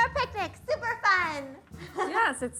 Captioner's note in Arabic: ضحك